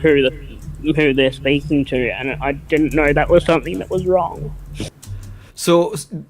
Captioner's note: chokes up